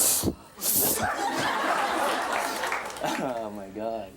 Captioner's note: audience laughs